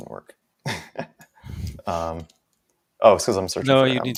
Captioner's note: both laughing